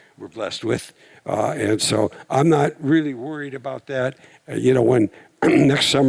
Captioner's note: clears throat